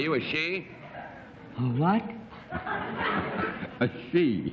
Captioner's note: low-pitched